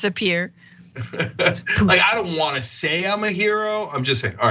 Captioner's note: laugh